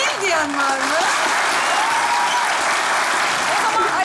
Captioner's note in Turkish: Alkış ve ıslık sesleri